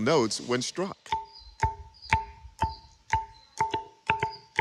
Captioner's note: pillar ringing